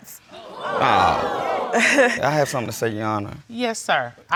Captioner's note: audience exclaiming